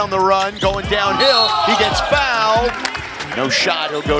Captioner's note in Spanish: suena el silbato